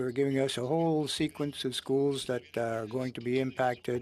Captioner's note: speaking French